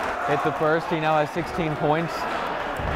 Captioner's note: cheering